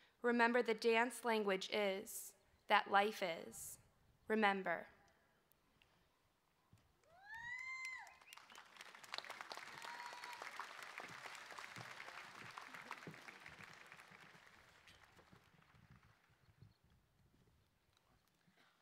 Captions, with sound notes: Remember the dance language is that life is. Remember. [ Cheering ]